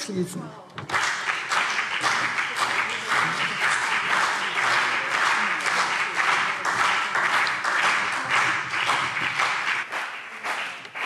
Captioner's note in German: Beifall BÜNDNIS 90/DIE GRÜNEN und CDU